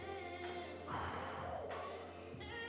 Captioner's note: breathes heavily